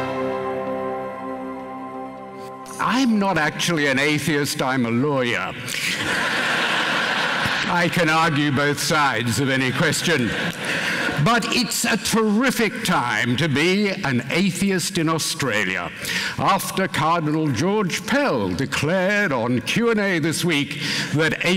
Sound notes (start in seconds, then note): 5.7 laughter